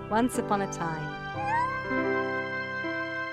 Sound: happy squeak

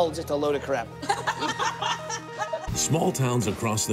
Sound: girls laughing

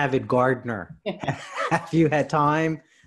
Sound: chuckling

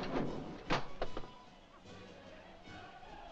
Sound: torch clatters; jovial music & singing

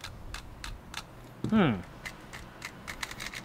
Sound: nonverbal grunt as interjection

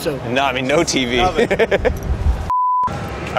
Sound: laughing

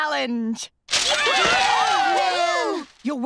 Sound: cheering

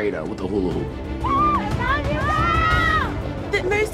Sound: cheering

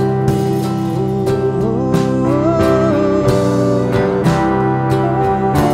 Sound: vocalizing

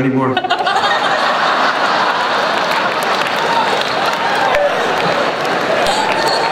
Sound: laughter, applause

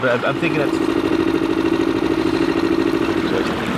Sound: boat engine vibrating

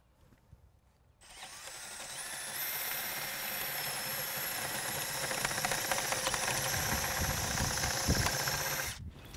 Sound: drill whirring, no additional audio

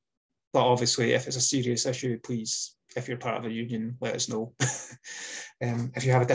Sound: laughs

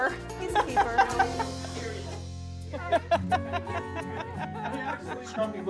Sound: laughter

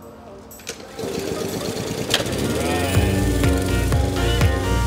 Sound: lawn mower starts; upbeat music

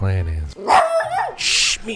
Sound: barking dog

